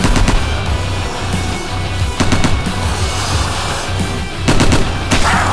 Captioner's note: gunfire